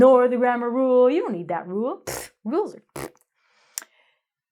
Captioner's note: blows tongue